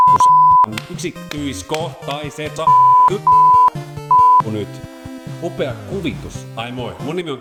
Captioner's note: beep; beep-beep-beep